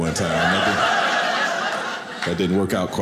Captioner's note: audience laughing